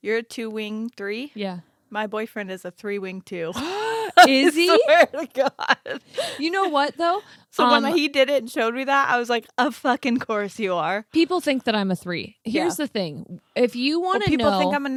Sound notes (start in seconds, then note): 3.6 gasps